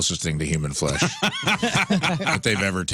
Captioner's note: laughing